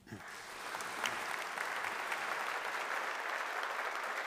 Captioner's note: audience applauding